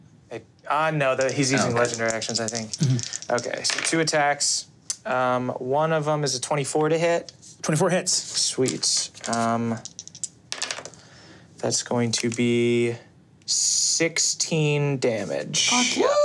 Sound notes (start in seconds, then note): 10.5 dice tapping table